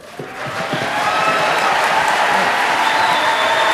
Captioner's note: audience cheering